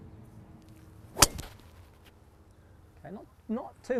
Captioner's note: hits ball